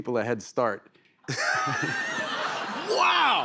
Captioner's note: laughter